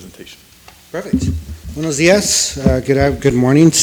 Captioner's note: speaks foreign language